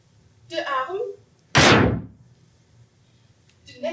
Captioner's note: sticks pound